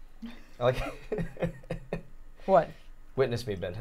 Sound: chuckling

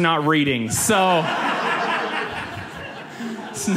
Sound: audience laughs

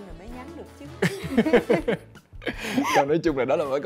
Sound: laugh

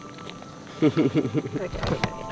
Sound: chuckles

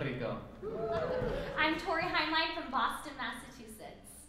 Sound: applause

